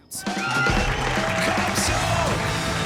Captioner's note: cheering